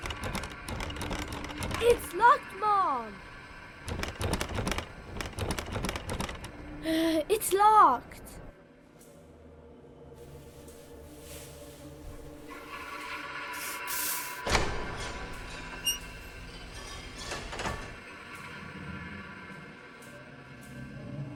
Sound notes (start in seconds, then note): 0.0 door clattering; 3.8 door clattering; 8.7 lights buzzing; 8.7 suspenseful music; 14.5 door opens and closes